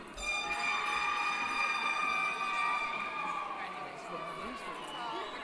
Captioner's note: cheering